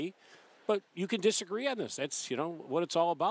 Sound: none

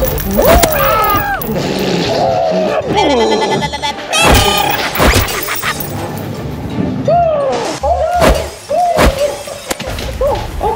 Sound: clowns making sounds

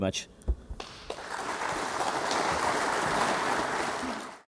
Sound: applause

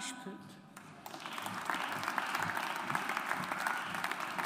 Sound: audience applauds

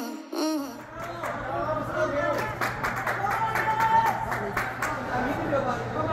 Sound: clapping Applause

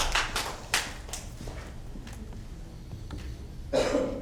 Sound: applause

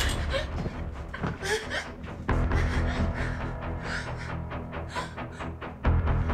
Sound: tense sinister music; Jenelle whimpering

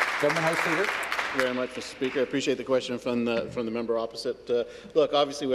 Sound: applause

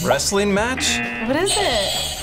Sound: buzzer rings; buzzer

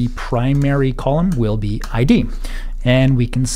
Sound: tapping keyboard

